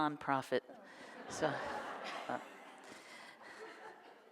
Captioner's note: audience laughs